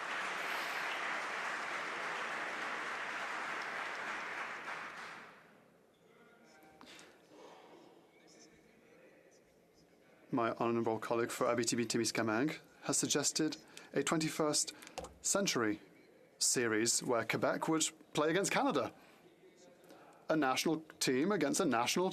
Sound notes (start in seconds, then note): 2.7 applause